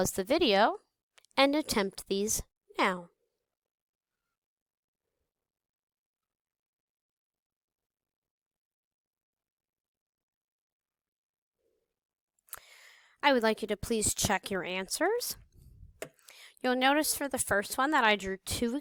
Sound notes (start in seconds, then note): 2.9 silence